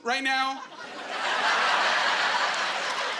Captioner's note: laughing